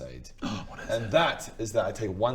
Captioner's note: gasp